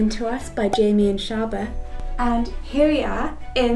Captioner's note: popping sound